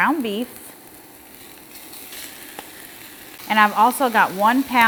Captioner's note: skillet sizzling